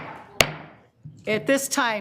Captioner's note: gavel banging